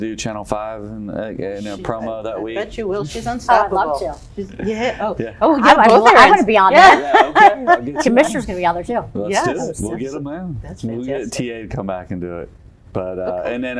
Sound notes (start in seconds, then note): 6.7 laughter; 7.7 laughs